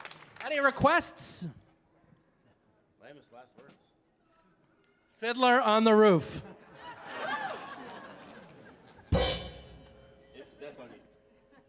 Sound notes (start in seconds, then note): 6.4 audience laughing; 9.1 drum chord striking